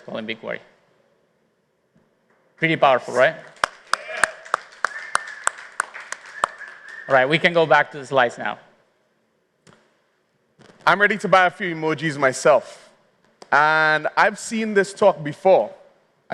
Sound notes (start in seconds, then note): 3.4 applause